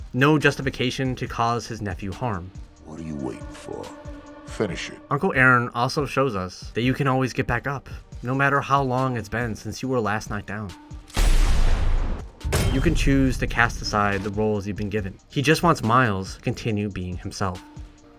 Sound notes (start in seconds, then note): 11.1 gun shot